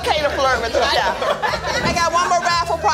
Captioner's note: laughter